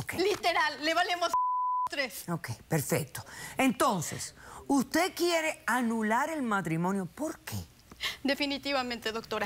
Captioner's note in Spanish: Bip; Bip